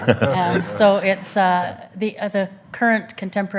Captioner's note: audience laughs